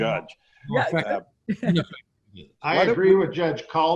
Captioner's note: everyone chuckling